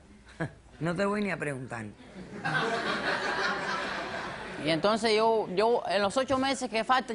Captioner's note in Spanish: Risas